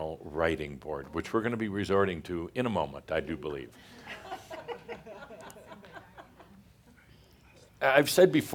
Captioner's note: a few chuckles